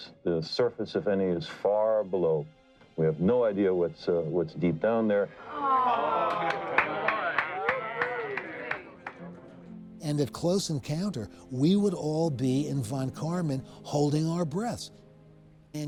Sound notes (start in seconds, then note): 5.4 people exclaiming; 5.6 people applauding